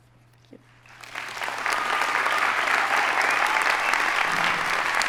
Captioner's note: audience applauding